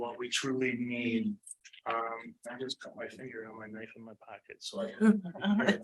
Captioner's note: lowered voice